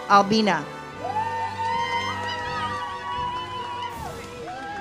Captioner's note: audience cheers